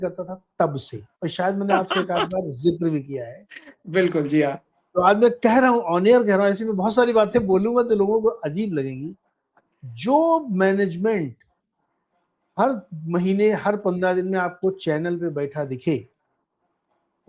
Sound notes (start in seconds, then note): 1.7 laughs